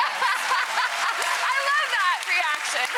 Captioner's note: audience clapping